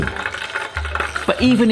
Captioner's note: oil bubbling